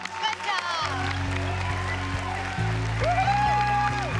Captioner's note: cheers and applause